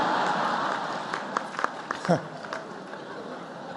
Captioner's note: laughter